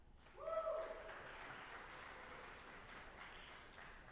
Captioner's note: audience applauding